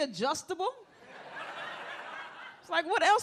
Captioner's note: audience laughs